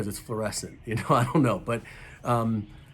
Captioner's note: chuckles